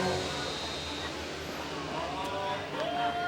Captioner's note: steam hisses